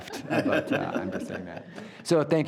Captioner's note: group laughs